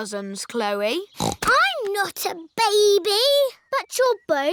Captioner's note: snorts